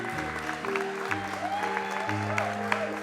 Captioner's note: applause; cheering